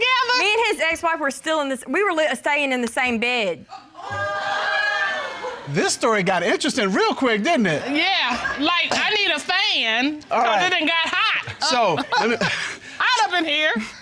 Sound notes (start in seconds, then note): 4.0 audience exclaiming; 11.5 judge chuckling; 11.5 chuckles